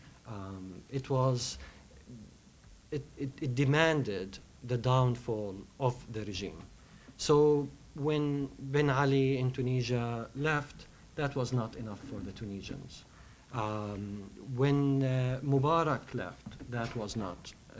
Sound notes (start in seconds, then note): none